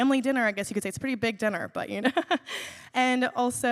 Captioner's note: laughs